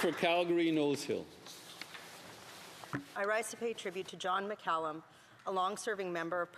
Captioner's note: applause